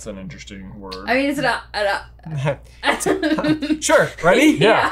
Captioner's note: chuckles